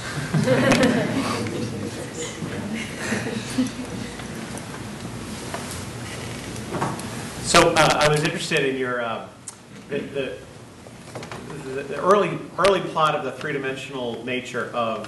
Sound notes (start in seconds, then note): 0.1 audience laughs; 7.7 voiceover